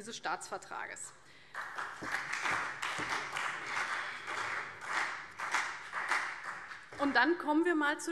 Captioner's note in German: Beifall CDU und BÜNDNIS 90/DIE GRÜNEN